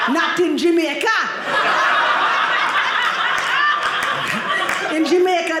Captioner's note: audience laughing